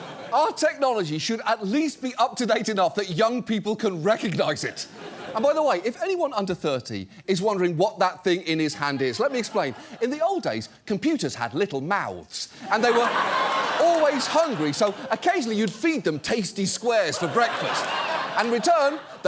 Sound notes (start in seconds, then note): 12.6 studio audience laughs